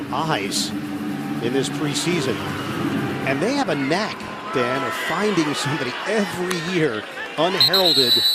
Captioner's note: whistle blowing